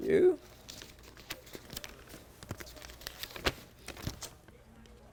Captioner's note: paper rustling